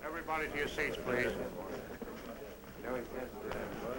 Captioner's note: chatter